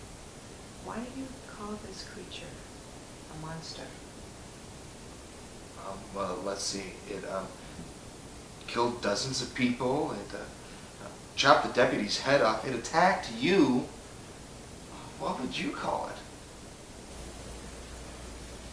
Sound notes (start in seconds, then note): none